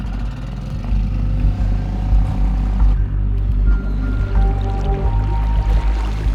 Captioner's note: boat motor hums; tense music continues